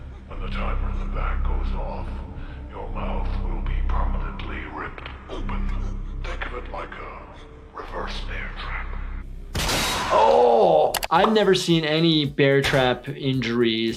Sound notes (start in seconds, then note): 9.5 device shatters